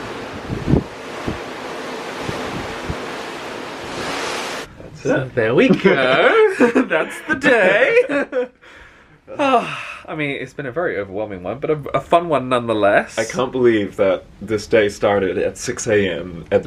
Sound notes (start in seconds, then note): 0.0 ocean swell lapping; 8.6 chuckles